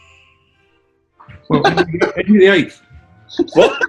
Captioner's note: giggling; laughing